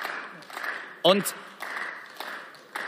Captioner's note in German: Beifall